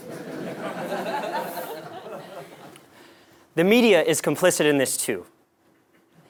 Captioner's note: laugh